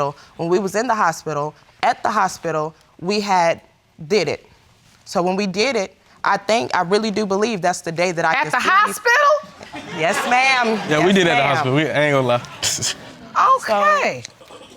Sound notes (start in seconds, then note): 12.4 snickers